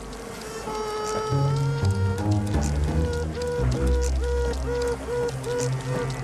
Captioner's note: responding sibling bee's Piping-Quaking